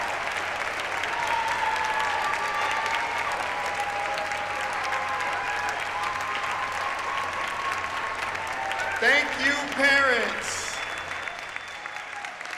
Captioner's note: applause